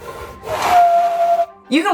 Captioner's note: background music; Balzak makes whistling vocalization